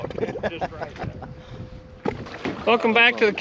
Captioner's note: laughter